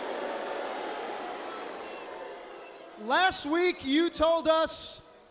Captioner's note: crowd cheering